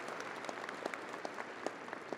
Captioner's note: audience applauding